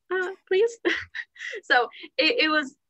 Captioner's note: laughter